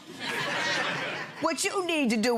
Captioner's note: audience laughing